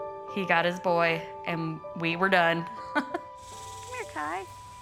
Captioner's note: chuckles